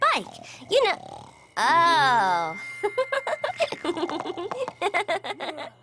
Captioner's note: chuckles